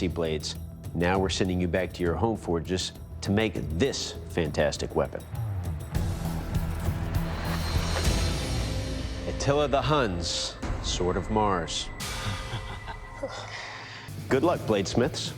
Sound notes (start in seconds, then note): 12.1 chukles